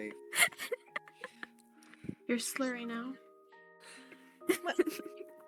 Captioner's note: giggles